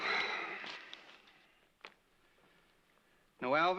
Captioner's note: exhales